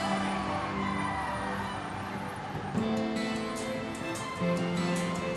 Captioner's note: siren wails in distance